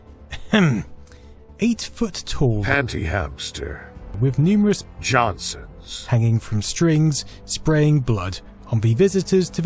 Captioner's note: ahem